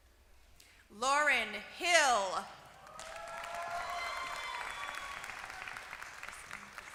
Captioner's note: applause